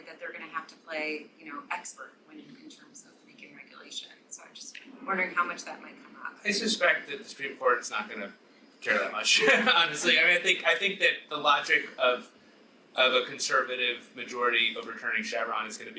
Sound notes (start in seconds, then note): 9.3 chuckles